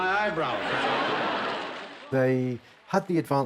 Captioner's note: audience laughing